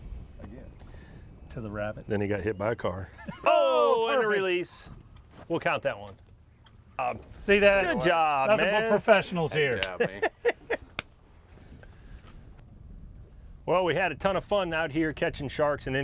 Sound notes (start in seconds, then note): 9.7 laughs